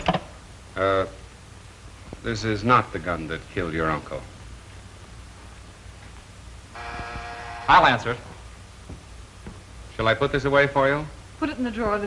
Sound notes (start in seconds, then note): 6.7 buzz